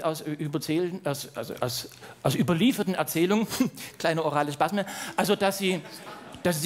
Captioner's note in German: stammelnd